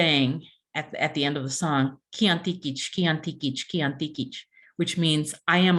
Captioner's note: non-english speech